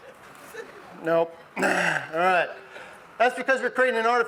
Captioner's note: clears throat